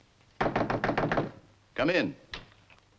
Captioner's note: loud knocking on door